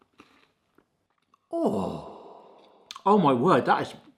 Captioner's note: groaning